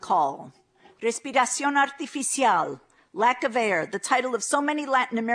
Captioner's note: non-english speech